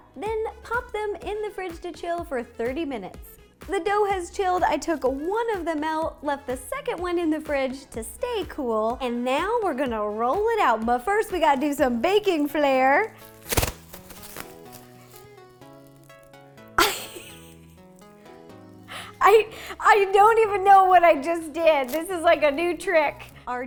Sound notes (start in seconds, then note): 16.8 laughs